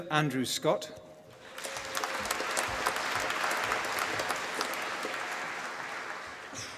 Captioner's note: applause